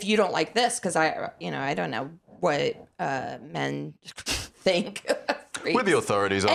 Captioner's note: laughs